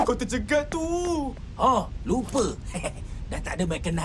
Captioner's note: laughs